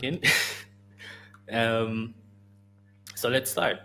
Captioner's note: laughs